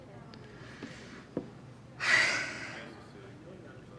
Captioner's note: sighs